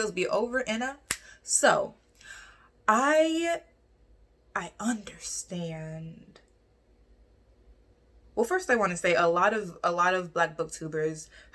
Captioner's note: snaps fingers